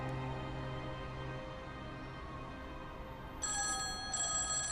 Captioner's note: police sirens blaring; cellphone ringing